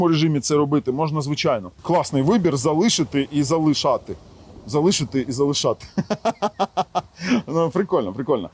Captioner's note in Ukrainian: сміх